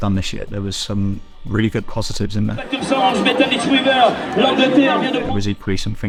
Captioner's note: commentator, in french